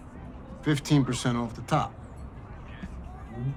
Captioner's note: none